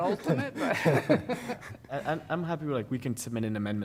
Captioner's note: laughter